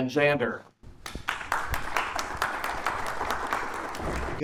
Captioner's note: audience applauding